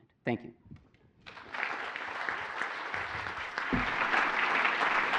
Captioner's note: applause